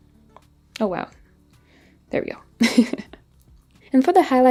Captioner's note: laughs